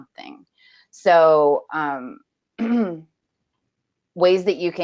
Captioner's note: clears throat